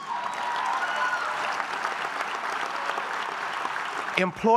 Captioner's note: applause